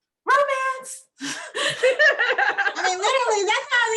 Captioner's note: laughing